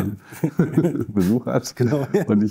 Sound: laughs

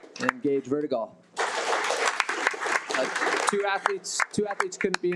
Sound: audience applauding; audience applauding

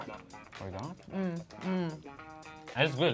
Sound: humming

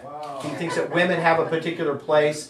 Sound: audience laughing

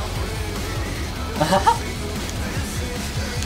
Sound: chuckles

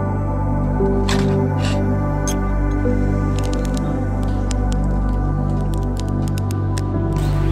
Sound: peaceful music; metal clinking; fire crackling; peaceful music

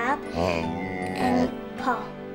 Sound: dog groans

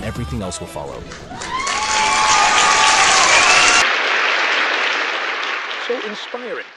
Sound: audience cheers

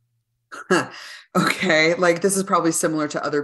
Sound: laughs

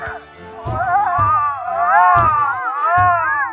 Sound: grunts; yelling

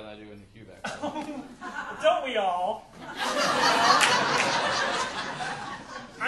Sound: audience laughing

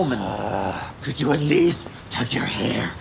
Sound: growls

